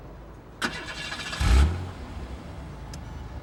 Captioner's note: engine starts